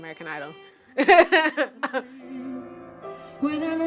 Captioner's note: laughing